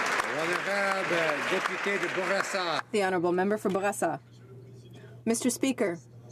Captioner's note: some Applause